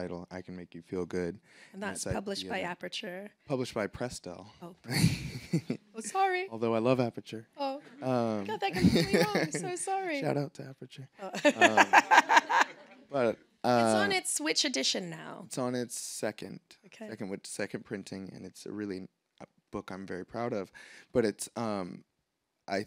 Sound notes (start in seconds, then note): 4.9 laughs; 8.6 laughs; 8.7 audience laughing; 11.3 laughs; 11.4 audience laughing